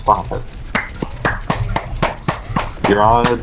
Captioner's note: slapping continues